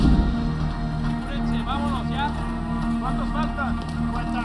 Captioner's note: workers speaking Spanish